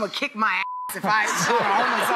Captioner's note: audience laughs